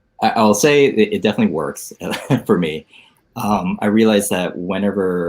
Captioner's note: laughs